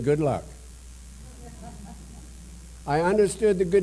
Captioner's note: laughter